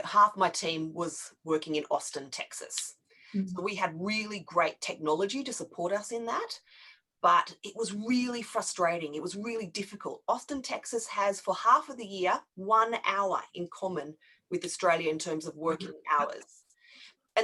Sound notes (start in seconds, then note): none